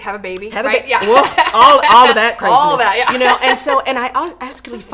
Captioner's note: laughs